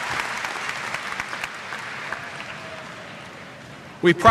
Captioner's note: cheers; applause